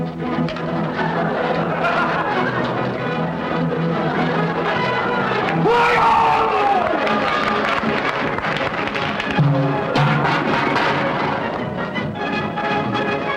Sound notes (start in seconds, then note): 5.9 applause; 8.7 banging